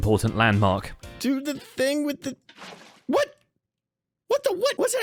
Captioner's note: splash